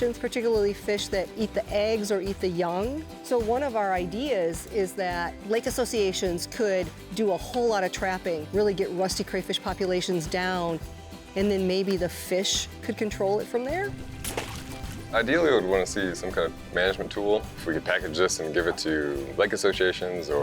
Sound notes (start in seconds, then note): 13.8 water splashes